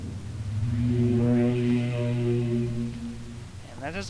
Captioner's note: whirring noise